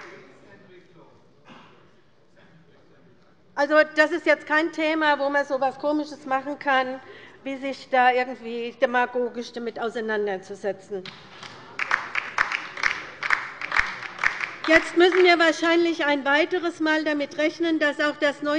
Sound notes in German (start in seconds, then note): 11.0 Beifall bei der LINKEN